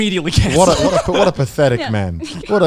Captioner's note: laughs